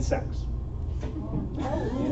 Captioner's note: laughter